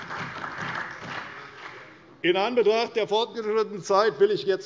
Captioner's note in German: Beifall bei der CDU und dem BÜNDNIS 90/DIE GRÜNEN